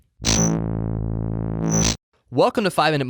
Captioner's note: electric buzzing